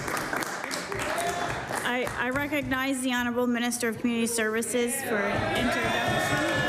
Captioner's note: applause